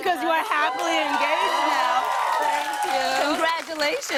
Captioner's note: cheers and applause